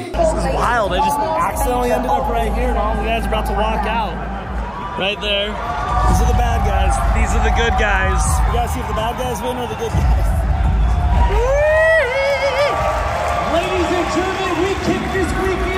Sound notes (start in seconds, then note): 10.2 people clamoring